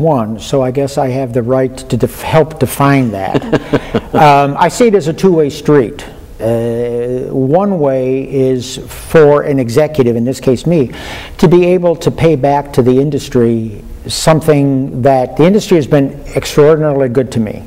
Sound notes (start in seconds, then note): 3.1 laughter